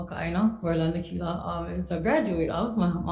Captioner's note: speaks foreign language